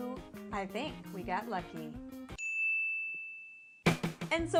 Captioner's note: ding